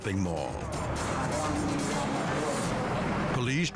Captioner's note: gunman speaking foreign language